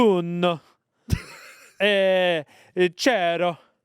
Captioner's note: laughs